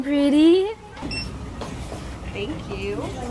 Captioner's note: beep